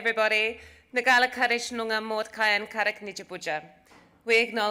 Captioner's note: speaks Aboriginal language